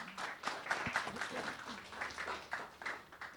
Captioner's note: applause